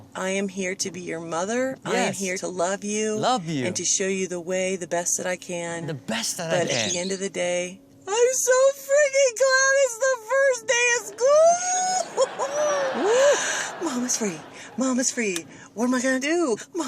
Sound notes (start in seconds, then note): 11.2 laughs; 11.5 audience laughing